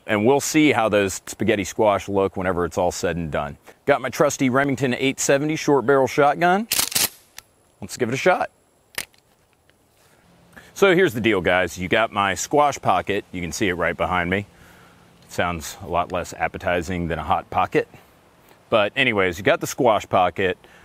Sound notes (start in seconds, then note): 6.7 gun cocking